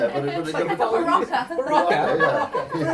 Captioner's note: laughs